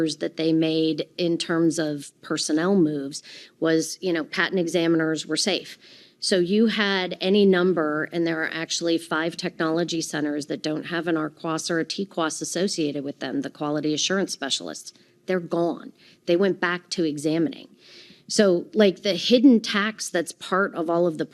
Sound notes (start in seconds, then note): none